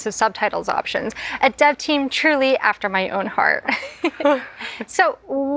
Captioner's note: laughs